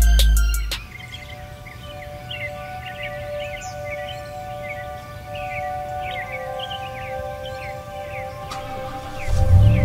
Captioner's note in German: vogelzwitschern